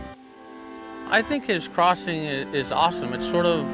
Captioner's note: male Voice